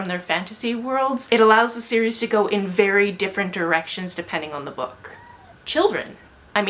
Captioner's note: screaming outside